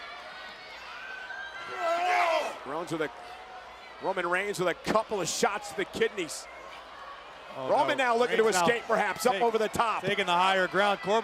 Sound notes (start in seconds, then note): 0.1 crowd shouting; 1.7 wrestlers grunting